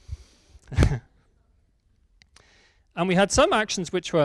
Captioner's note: laughs